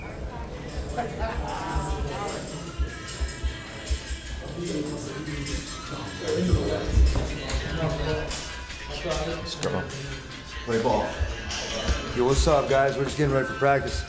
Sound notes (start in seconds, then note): 0.6 laughing; 3.1 radio playing